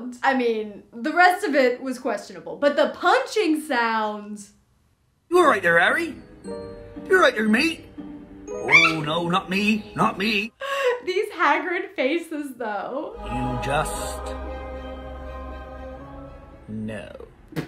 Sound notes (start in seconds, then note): 8.6 squeals; 13.1 magical music